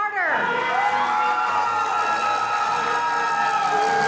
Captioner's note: audience cheering